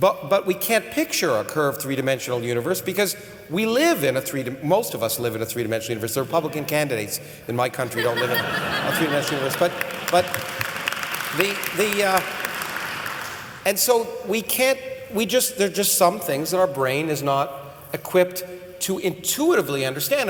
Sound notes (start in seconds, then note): 10.6 laughter and applause